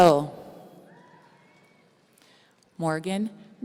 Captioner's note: audience cheering